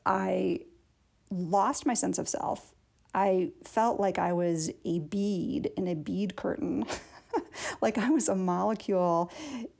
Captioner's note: laughter